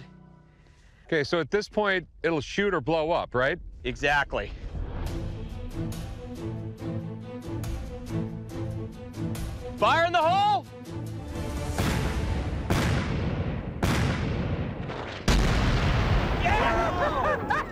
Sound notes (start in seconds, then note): 11.7 explosions; 16.6 laughter